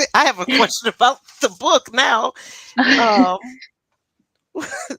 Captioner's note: laughs